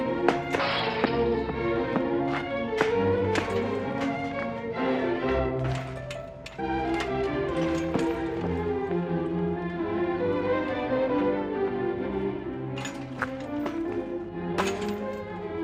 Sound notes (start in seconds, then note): 0.3 metal crashes; 1.8 boots clattering